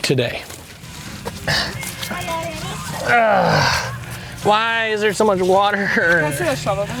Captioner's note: grunting